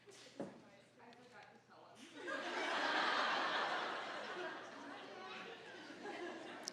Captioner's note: audience laughing